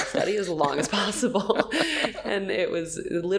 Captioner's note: laughing